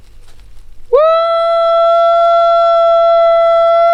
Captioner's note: howling